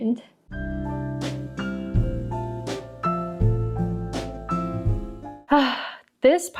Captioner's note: big sigh